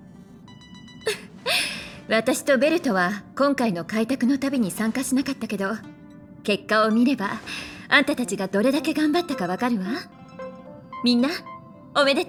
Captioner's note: chuckles